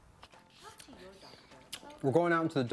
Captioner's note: tv playing